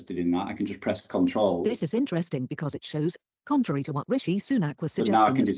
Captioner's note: computer speaks